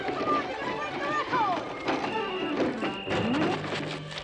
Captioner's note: whistle blowing